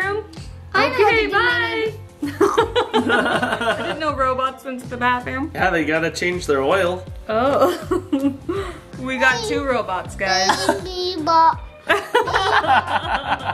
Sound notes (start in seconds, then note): 2.2 mom laughing; 11.8 parents laughing